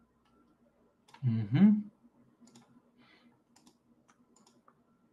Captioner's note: keyboard clacking